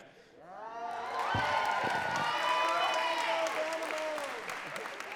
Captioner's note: crowd cheering and clapping